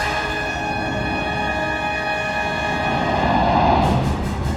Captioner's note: jet engine roaring